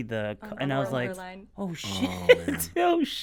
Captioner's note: laughing